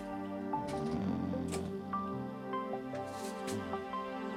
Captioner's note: door closes; Billy Ray snores